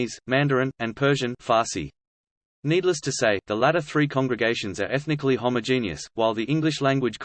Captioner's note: Farsi